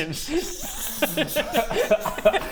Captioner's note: laughs